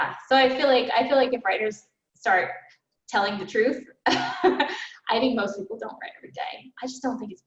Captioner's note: laughs